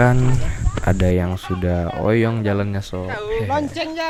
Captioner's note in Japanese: 嗚咽